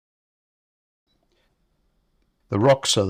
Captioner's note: silence